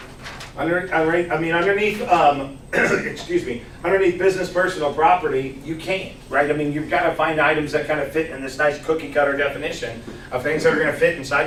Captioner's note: clears throat